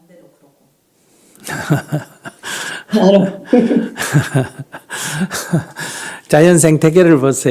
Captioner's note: laughter